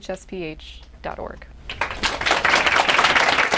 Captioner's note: applause